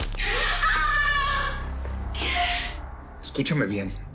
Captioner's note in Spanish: Grito